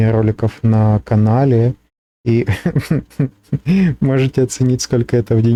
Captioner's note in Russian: смех